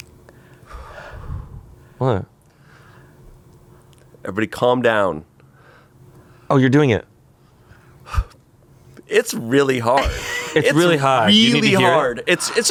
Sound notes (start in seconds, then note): 8.3 sighs